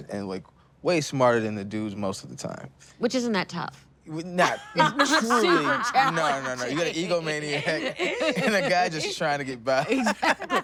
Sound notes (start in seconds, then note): 4.4 all laugh; 10.0 laughing